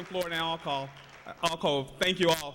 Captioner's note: applause